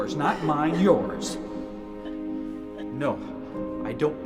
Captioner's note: crying